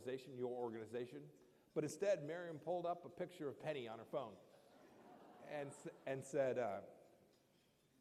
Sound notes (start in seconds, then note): 4.6 laughter